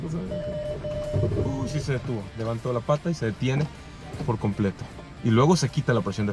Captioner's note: alarm beeping